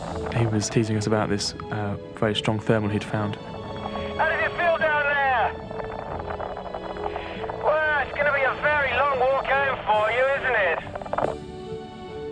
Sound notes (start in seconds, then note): 0.0 laughs; 3.0 pat